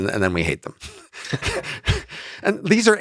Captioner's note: Lex and Robin chuckle